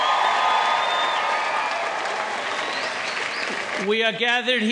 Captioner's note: audience cheering